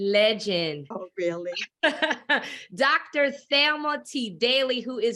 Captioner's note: laughs